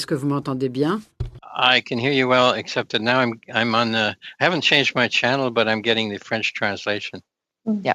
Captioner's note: speaking French